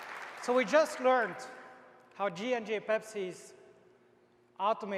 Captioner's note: applause